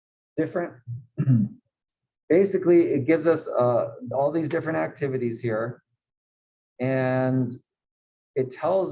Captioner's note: cough